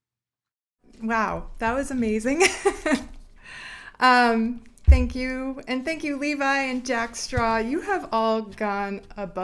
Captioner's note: giggles